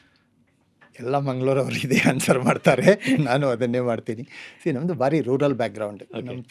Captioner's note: laughs